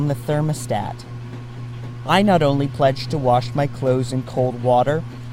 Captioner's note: washing machine running